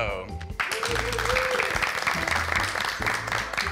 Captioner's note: group applauding